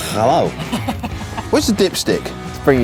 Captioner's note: laughing